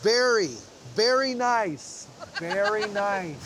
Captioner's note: laughing